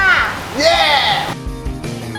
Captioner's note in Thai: ร้องดีใจ